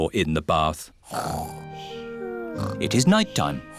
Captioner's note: snoring